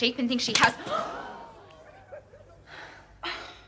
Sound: gasping

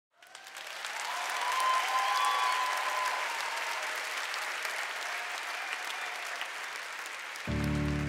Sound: audience applauds

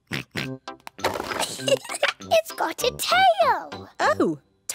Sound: oinks; giggles

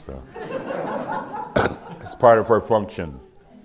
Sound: laughter

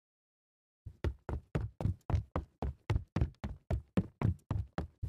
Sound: footsteps

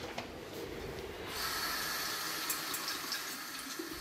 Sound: rippling water

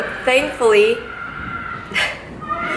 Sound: kid screaming

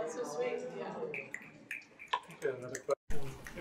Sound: audience continue to snap fingers

